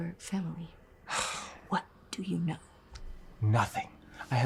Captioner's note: Tristan sighs